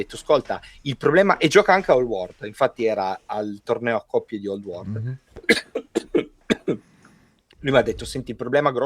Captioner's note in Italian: risate